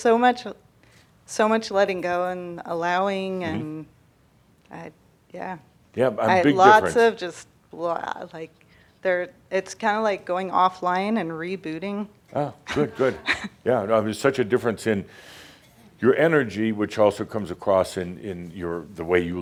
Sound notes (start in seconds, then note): 12.6 she chuckles